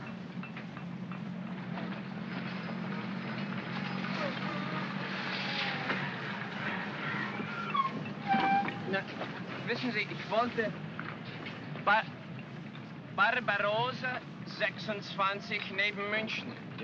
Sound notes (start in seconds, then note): 0.2 city street sounds; 8.1 brakes squeal; 9.6 speaking in broken German